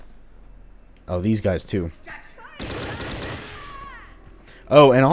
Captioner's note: M16 bursting